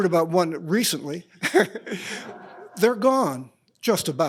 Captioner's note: laughs